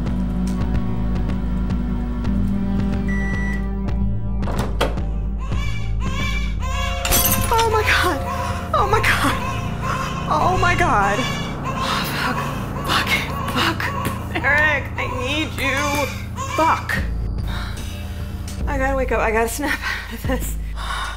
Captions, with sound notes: (distant baby crying) (shattering plate) Oh my god... Oh my god... Oh fuck. Fuck it. Fuck. Derek! I need you... FUCK! I gotta wake up. I gotta snap out of this.